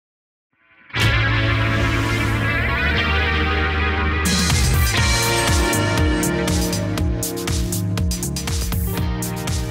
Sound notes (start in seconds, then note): 0.8 upbeat rock music; 5.3 bell tolls